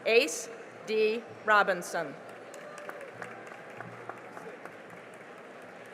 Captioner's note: cheering and applause